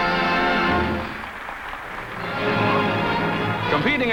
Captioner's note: applause